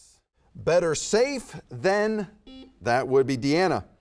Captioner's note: buzzer beeps